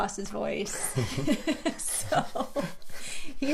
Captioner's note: both laughing